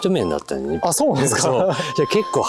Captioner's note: laughs